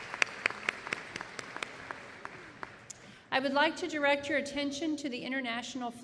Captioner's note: applause